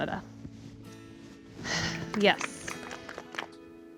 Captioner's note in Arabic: تتنهد; تصفيق